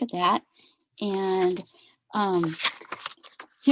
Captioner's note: papers rumbling